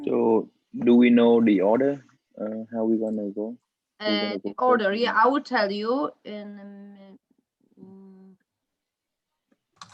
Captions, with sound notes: - So, do we know the order, how we gonna go? - The order? Yeah, I will tell you in, (speaks quietly).